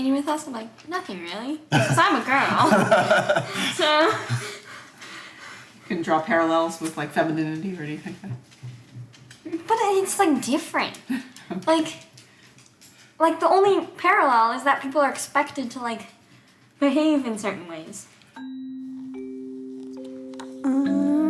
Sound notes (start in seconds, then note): 1.7 parents laughing; 7.2 dog paws stepping; 11.1 mom chuckles; 18.4 xylophone chiming